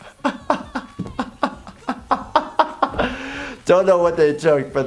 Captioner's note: laughing